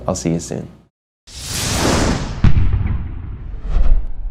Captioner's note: Whooshing electrónico